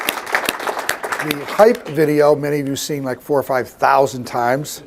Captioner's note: applause